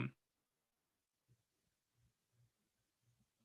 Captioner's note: silence